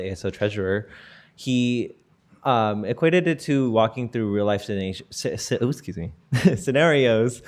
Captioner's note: giggle